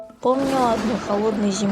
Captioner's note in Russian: гром